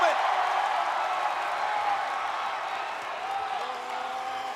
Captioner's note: applause